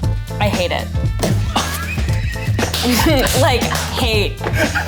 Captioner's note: laugh